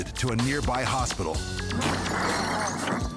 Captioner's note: shattering